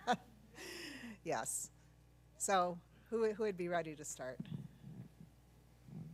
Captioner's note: laugh